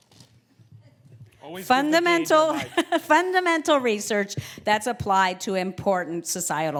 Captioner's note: laugh